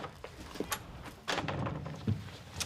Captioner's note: door closes